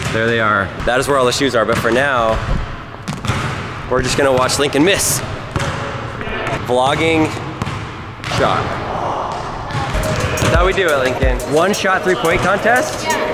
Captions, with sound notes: There they are. That's where all the shoes are but for now, we're just gonna watch Lincoln miss. (basketballs thud and echo) Vlogging shot. That's how we do it Lincoln. One shot, three point contest?